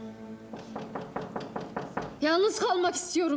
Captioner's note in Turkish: kapı tıklatılıyor